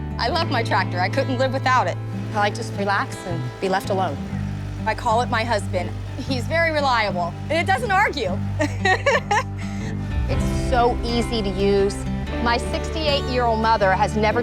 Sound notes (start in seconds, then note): 8.5 laughs